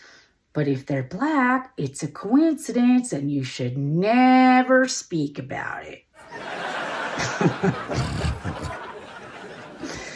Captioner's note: Audience & Chappelle laughter